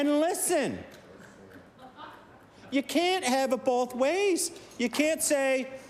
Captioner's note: laughter